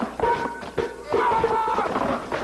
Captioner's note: yelling